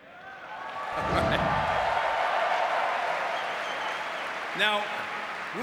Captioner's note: audience cheering and clapping